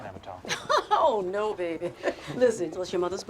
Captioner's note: Betty laughs